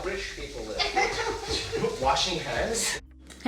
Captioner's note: chuckles